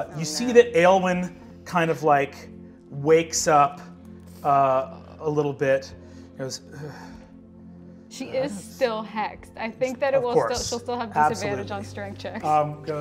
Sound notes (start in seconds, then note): 4.6 groans